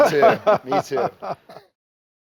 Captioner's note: men laughing